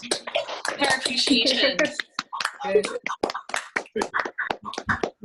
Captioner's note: applause